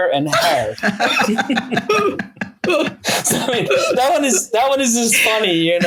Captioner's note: everyone laughing